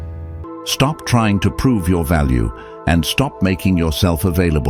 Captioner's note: AI Voice